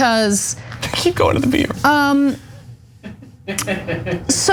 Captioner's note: laugh